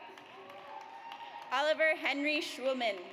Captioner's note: audience cheers